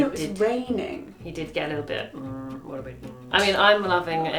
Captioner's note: groans